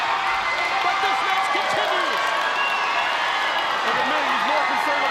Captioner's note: audience cheering